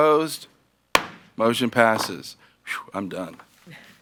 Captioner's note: gavel bangs